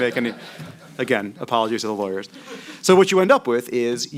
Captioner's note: laughter